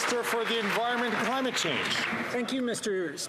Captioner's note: some Applause